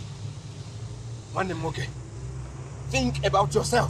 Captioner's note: igbo language